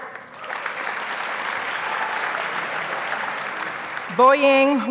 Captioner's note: audience applauds